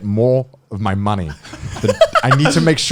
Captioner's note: laughing